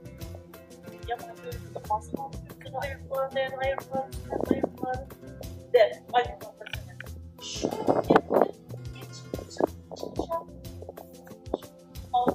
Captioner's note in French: Conversation en Ouzbek entre deux femmes en fond sonore